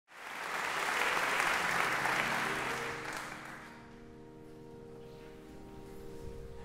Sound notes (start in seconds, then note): 0.0 audience clapping; 3.0 bright piano music